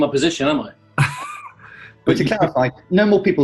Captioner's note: laughing